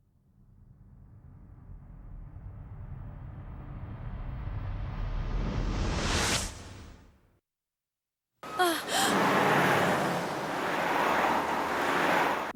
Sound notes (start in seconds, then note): 4.0 swwiiiish; 8.6 gasp; 9.6 whooshing